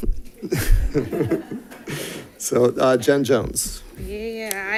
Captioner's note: laughs